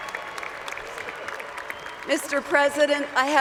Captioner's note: cheers and Applause